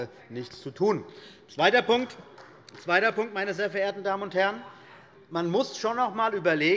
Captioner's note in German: Beifall des Abg